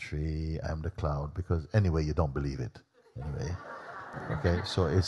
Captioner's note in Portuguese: riso